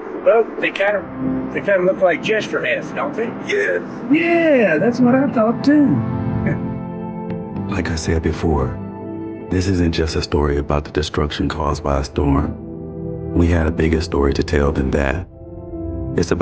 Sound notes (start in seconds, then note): 7.0 chuckles